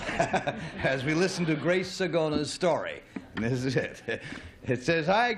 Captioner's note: laughs